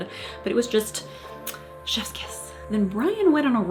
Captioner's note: kiss